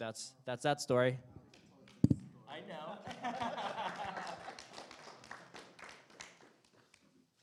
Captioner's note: applause